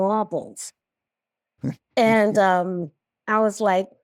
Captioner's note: chuckles